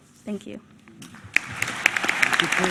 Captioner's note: applause